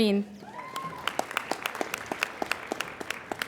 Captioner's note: applauding